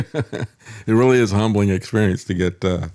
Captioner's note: laughs